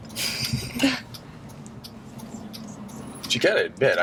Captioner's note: laughs